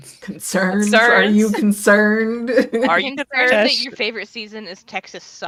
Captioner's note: laughs